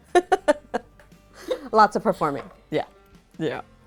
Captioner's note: chuckling